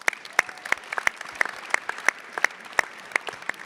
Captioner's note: everyone claps